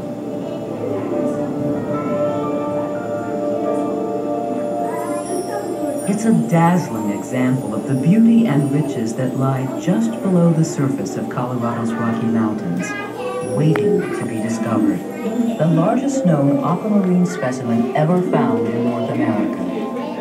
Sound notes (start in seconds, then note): 0.1 suspenseful music; 4.8 tinkling chimes